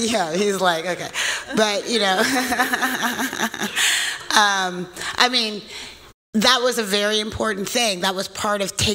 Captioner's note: laughs